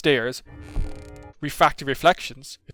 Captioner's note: creaks